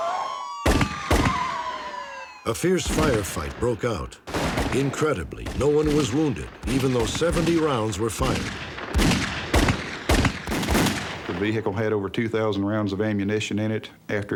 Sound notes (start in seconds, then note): 1.0 gun firing